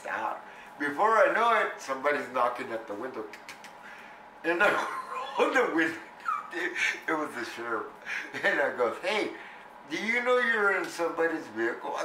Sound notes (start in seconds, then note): 4.6 laughs